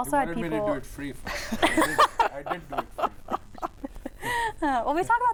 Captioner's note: crowd laughing